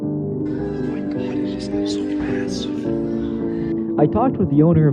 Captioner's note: whispering